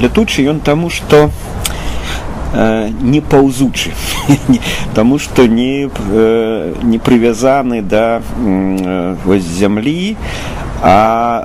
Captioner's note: laughing